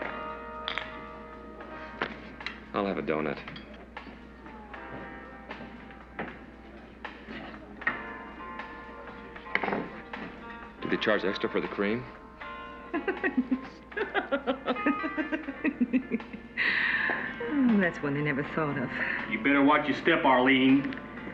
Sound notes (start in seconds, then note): 12.8 giggling